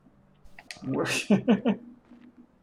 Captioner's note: chuckles